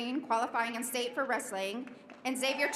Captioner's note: applause